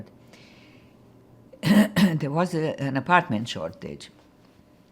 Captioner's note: clears throat